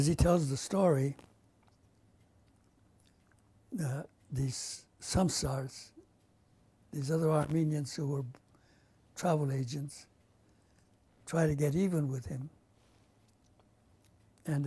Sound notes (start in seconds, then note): 2.0 pauses for 3 seconds; 4.7 non-english